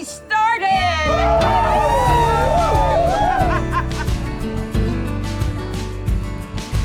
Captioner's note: crowd cheering; upbeat music